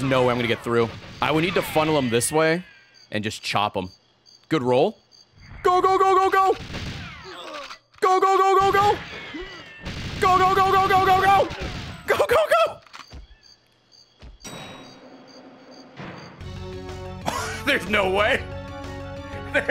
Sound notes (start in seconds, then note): 12.0 laughs